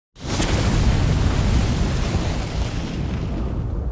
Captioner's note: fire roaring